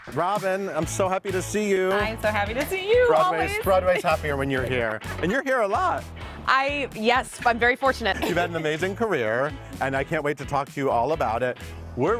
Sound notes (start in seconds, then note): 8.0 laughs